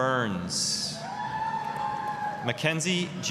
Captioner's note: applause, cheering